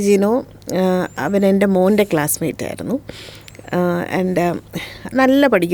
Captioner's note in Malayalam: ചീറ്റുന്നു